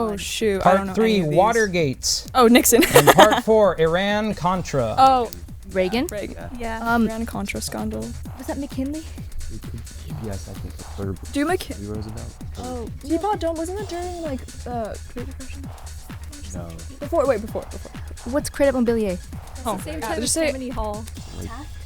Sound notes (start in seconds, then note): 4.9 whispering